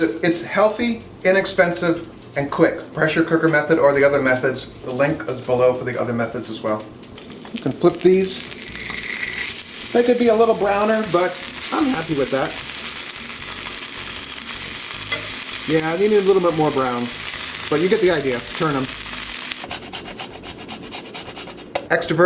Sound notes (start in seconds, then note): 13.2 polenta sizzles; 19.9 cheese rasps